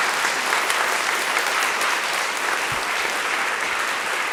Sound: attendees applauding

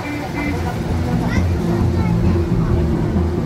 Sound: loud traffic and city noises

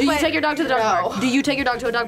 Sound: laughs

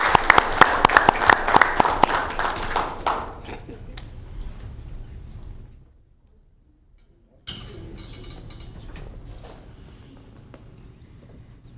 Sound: applause

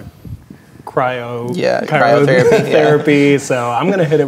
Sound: laughs

